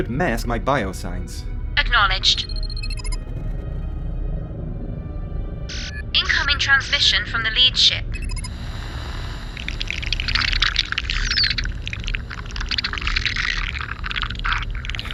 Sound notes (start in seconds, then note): 3.4 energy power up sound; 5.7 alert noise; 8.1 static audio mixed with alien clicking noises